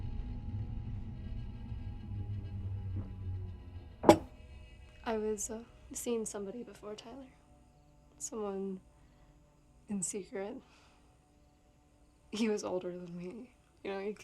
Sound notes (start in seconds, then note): 0.3 tense music; 4.0 glass thuds